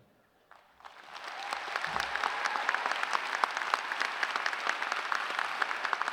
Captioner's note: applause